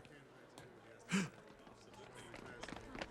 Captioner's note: gasps